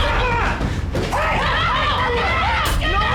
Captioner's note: shouting